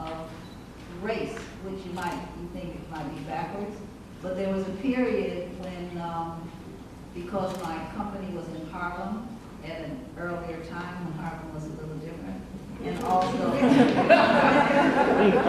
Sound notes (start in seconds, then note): 13.5 laughs